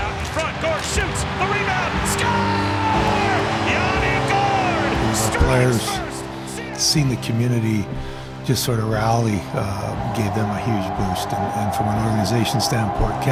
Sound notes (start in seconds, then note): 3.2 crowd roars